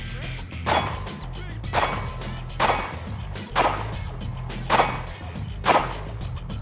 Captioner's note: gunshots